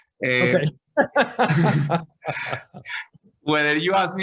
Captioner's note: laughs